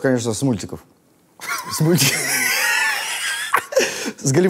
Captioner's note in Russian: оба смеются